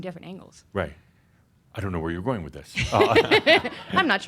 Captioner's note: they chuckle; she chuckles